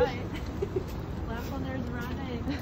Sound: laughs

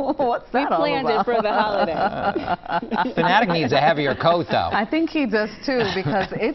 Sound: laughter

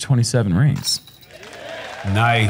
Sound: applause

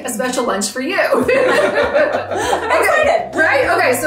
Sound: all laughing

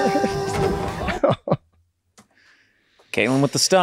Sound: Charlie laughs; laughs

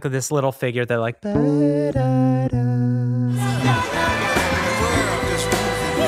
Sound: humming

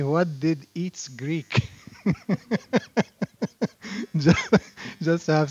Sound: laughter

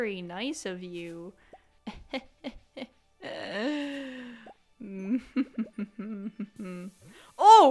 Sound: chuckle buckle

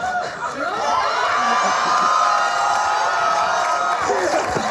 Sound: audience cheers

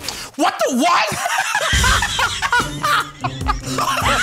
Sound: Joe and Q laugh

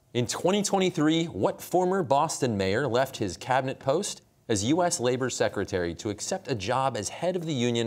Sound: none

